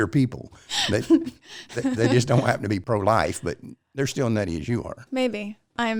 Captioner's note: laughs